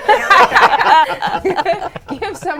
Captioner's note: laughing